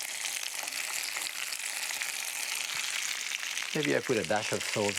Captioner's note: sizzling